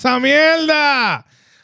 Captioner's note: speaking Spanish